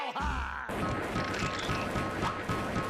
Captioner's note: gun firing